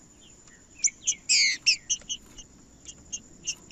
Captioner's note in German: trinca ferro cantando